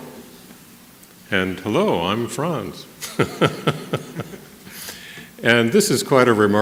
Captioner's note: laughter